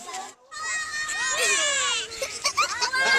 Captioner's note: kids yell, laugh